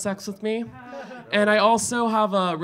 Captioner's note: audience laughing